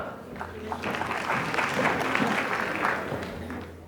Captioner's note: applause